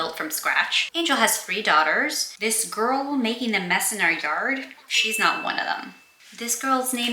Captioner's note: chime sound effect